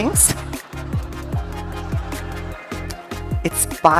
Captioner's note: audience laughing